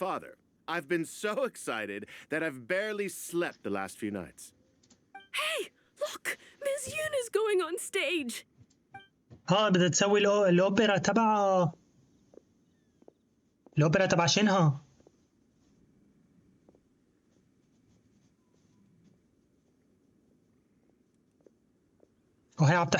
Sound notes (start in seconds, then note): 9.2 footsteps